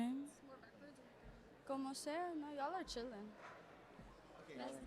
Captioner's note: non-english speech